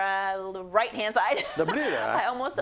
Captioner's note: laugh